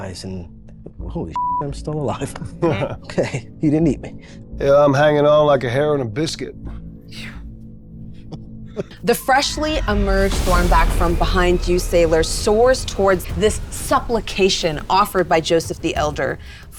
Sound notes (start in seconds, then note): 6.9 laughing; 7.1 sighs